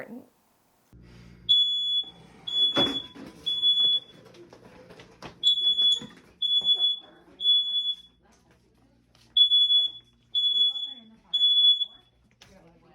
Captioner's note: alarm beeping